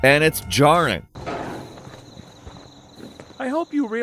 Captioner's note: insects chirping